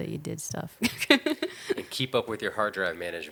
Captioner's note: laughing